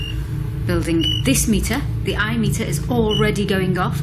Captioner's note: metre beeping